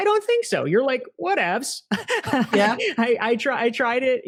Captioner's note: laughs